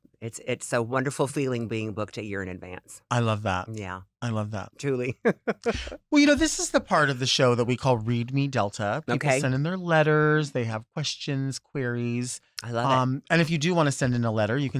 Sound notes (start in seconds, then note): 5.2 chuckles